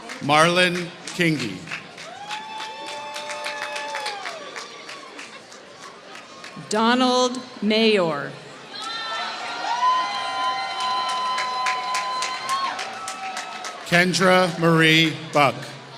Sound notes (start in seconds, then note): 2.4 applause; 9.6 applause